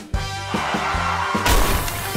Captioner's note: skidding